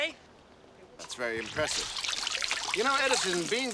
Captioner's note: none